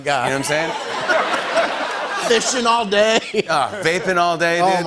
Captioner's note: laughter